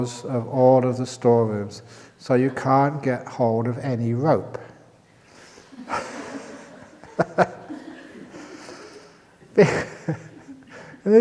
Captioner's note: laughter